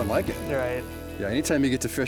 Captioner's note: pat